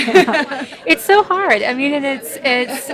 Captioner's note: laughing